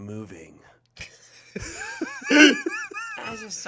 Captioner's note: group laughing